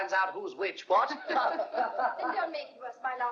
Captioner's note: laughing